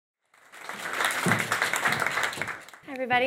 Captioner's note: audience clapping